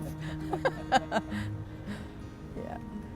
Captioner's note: both laugh